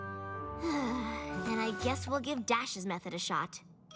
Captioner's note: sighs